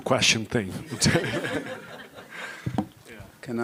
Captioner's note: laughter